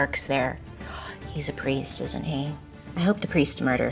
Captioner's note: gasps